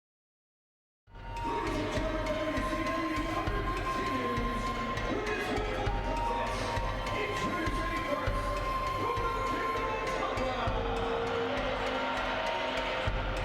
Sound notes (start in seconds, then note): 1.9 theme music playing; 5.5 announcer introducing wrestler; 9.5 theme music continues